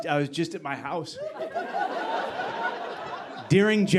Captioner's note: audience laughing